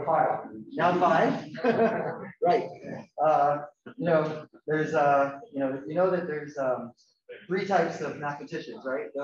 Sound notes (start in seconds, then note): 0.7 laughing